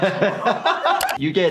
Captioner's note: Jackass crew laughing; doctor laughs